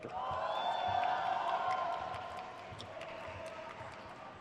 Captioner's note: crowd cheers